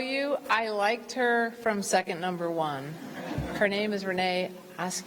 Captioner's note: laughter